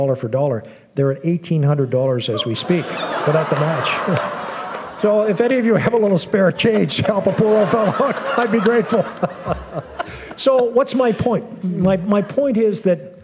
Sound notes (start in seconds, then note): 2.4 laughter; 9.8 chuckle; 9.9 laughter